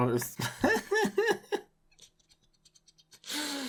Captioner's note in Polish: śmiech